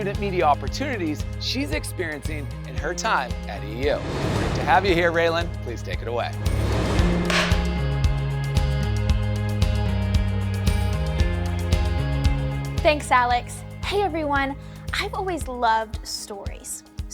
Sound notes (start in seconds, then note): 6.4 air whooshing; 6.4 upbeat music